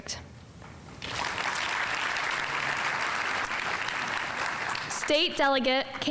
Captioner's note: audience applauding